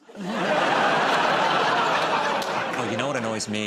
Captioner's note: laughter